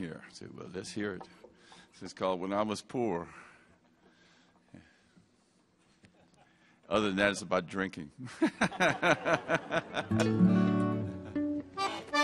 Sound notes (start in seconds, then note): 8.6 laughs